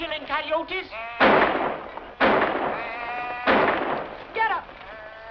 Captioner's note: gunshots